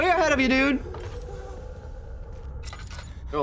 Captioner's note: growl echoing